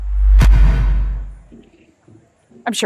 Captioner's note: impact sound